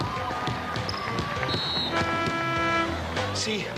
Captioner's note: crowd cheering; whistle blows